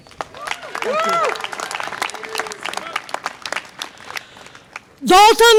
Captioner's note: audience applause and cheer